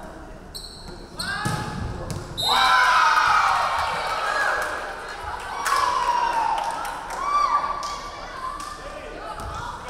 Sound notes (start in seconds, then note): 2.4 referee whistling; 2.4 crowd cheering